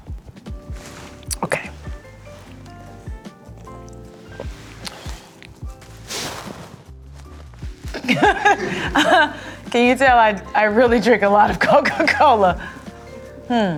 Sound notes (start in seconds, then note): 7.9 and crew laugh